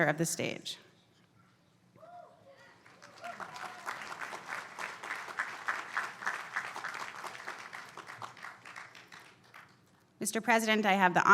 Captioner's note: applause